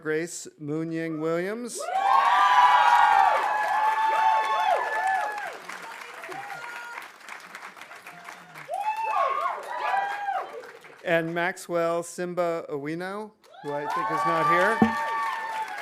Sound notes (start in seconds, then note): 1.9 audience cheering; 2.4 audience applauding